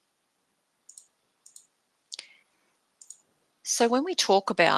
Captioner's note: mouse clicking